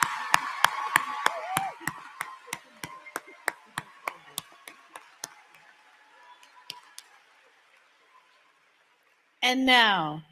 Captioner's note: applause